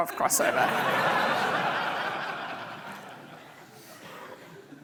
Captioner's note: audience laughing